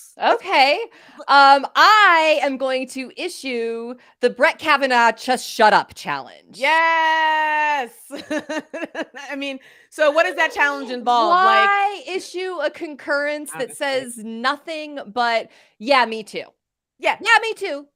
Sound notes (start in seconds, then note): 8.0 laughs